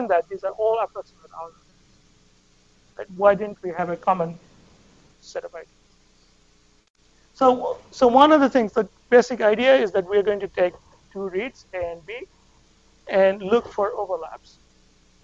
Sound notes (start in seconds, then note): none